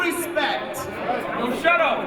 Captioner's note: audience talking